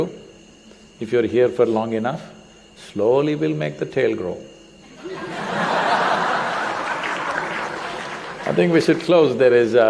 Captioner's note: laughter